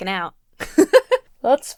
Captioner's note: laughs